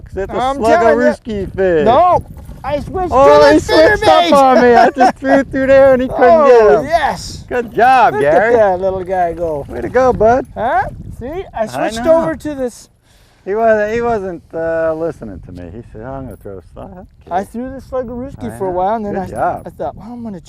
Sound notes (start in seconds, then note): 4.4 laughter